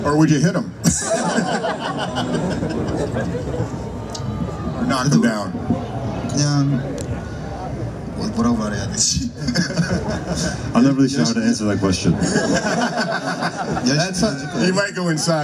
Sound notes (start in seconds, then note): 0.0 crowd laughs; 4.6 crowd laughs